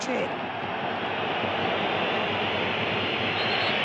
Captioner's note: crowd roars